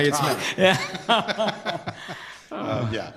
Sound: laughter

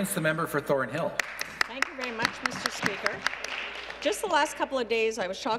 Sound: applause

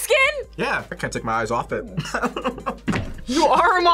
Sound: laughs

